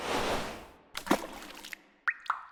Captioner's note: whoosh; splash; dripping